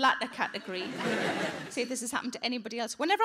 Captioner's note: audience laughing